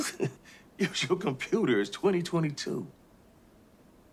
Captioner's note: laughs